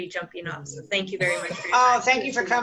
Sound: laughter

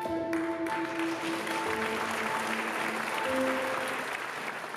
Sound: audience applauding

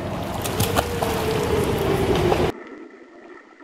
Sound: splashing

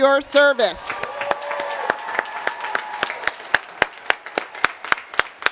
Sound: applause

